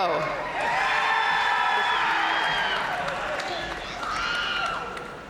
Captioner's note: audience cheering and applauding